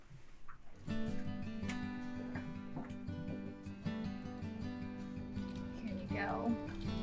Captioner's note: footsteps tapping; gentle music